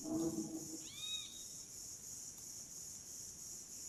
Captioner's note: eek sound